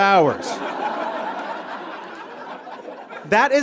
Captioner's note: audience laughs